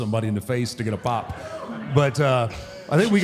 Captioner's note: audience cheers